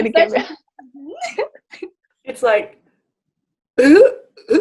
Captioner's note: laughter; laughter